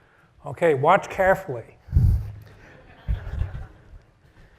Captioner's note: laugh